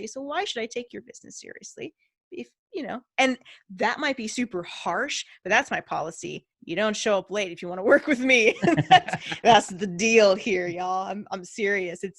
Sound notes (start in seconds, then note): 8.6 laughing